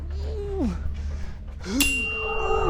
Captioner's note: tuning fork rings